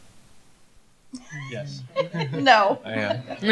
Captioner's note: laughter